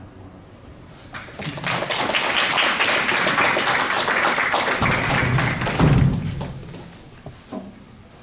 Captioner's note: applause